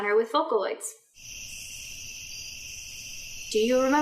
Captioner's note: crickets